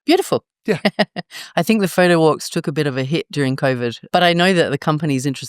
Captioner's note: laugh